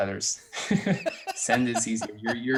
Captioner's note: laughter